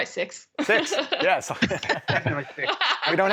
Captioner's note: laughing